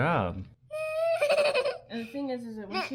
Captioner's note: whimpers